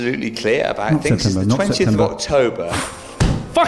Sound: inhales; thud

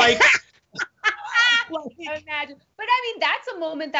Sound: both laughing

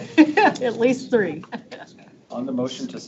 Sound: laughs

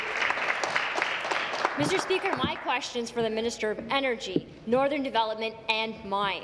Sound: applause

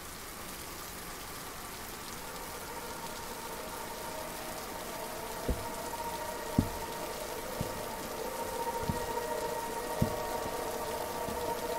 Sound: rain; music and Footsteps

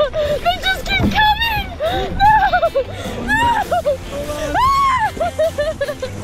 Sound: laughs nervously; screams

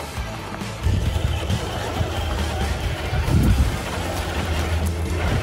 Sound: engine rumbling

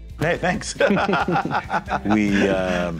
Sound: both laugh

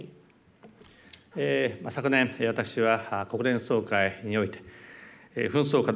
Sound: speaking japanese

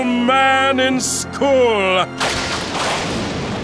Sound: lightning crashes

